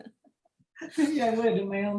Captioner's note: laughter